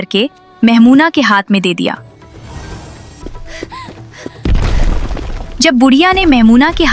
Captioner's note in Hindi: हांफने की आवाज़